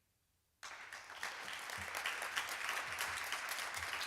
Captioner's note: applause